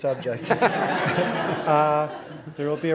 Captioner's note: audience laughing